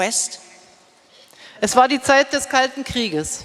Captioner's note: speaking in German